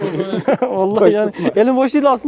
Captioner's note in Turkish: Gülüşmeler